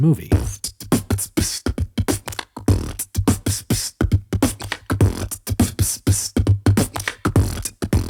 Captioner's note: beatboxing